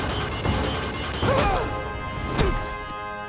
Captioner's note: screaming